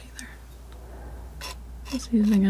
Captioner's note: scratching